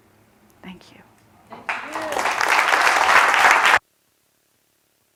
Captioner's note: applause